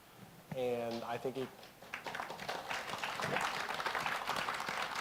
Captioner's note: applause